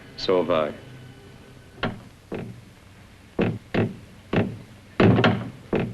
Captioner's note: door creaking